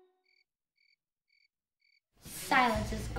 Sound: crickets chirping

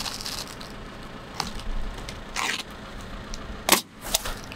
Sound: shingles scraping on roof; nail gun bangs

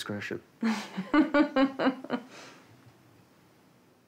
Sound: Physio 1 laughs

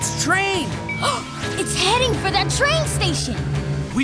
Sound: gasping

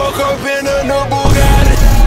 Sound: boom

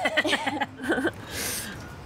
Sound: laughter

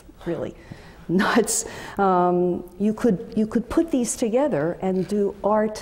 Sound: laugh

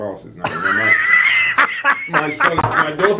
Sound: laughs

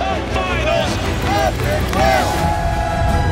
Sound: family cheering

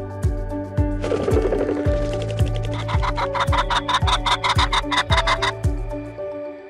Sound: ♫ pheasant fluttering and crowing ♫

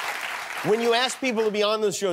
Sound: cheers and applause

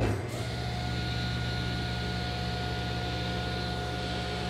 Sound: cutter motor running

